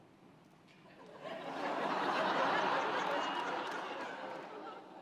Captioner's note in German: Lachen